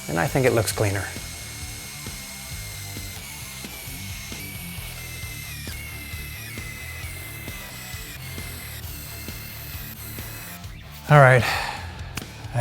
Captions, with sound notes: and I think it looks cleaner. (tool whirring) (intense rock music) All right.